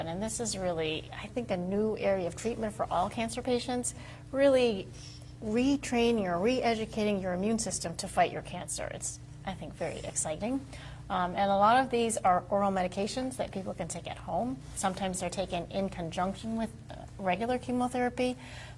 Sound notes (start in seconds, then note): none